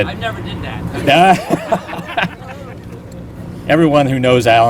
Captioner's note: laughter